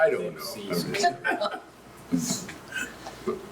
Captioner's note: laughs